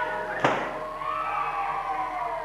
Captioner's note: balloon pops